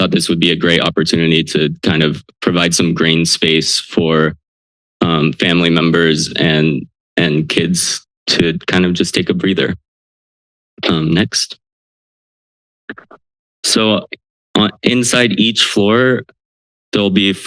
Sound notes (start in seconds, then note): 11.8 silence